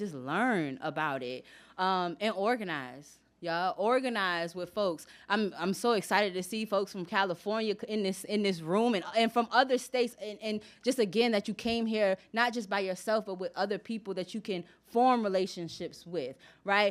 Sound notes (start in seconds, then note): none